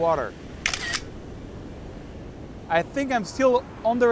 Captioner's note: camera snaps